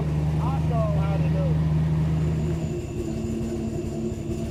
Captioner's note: boat motor running